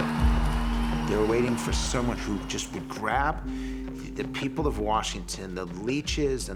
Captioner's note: crowd cheering